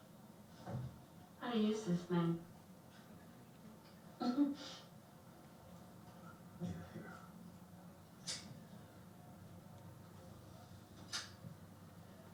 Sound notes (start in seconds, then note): 4.3 Sylvie chuckles